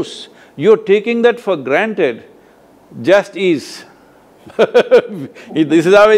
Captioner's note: both laugh